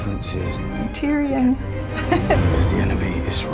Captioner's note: laughing